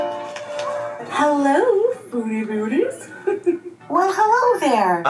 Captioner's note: giggles